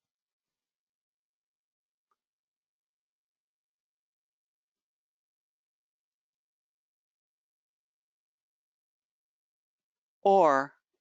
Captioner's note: 10 seconds pause